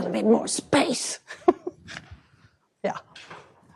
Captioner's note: chuckles